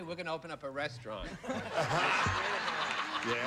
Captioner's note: laughter